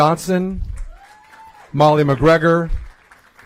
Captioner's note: applause